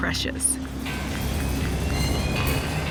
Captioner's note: metal clanging, machinery humming